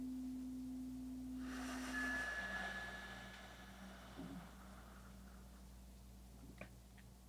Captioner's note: slow breathing continues; chimes ringing continues